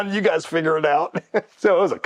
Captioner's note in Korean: 웃음